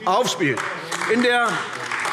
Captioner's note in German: Beifall